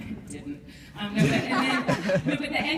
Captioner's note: laughs